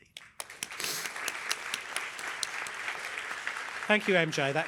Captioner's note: applause